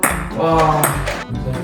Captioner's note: the sighs just keep coming